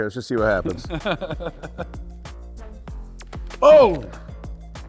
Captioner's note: person laughs